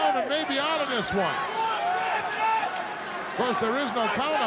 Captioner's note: crowd yelling